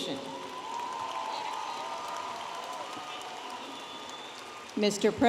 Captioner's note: audience applauding and cheering